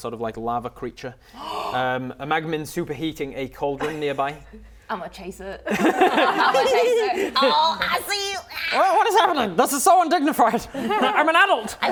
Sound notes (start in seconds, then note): 1.2 gasp